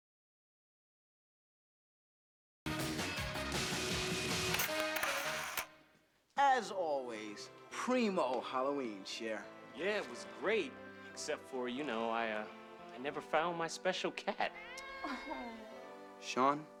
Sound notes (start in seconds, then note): 4.4 utshter clicking